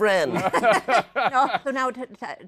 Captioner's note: laughter